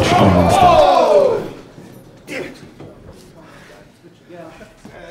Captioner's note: audience cheering